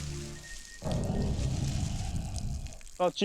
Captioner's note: deep low growl